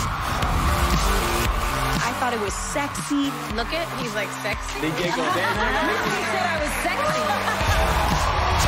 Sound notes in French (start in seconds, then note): 5.0 laughter